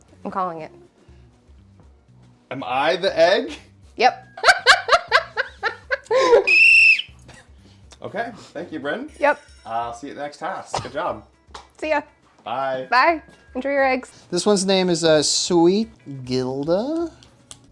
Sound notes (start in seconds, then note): 4.4 laughs; 6.3 whistle